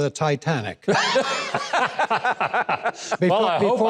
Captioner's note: hosts laughing; audience laughing